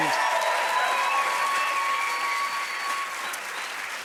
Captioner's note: cheers and applause